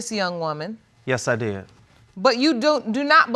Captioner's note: none